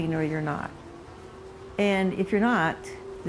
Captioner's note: bees buzzing